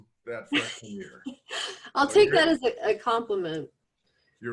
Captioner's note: laughs